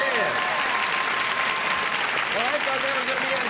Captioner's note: applause